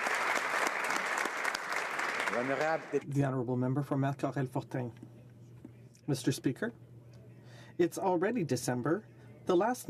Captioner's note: applause